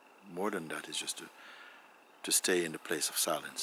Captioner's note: none